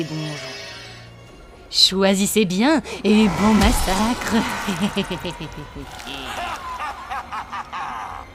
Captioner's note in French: Rires machiavéliques